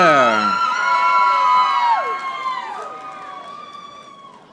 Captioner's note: audience applauding